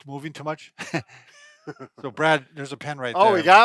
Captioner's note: chuckles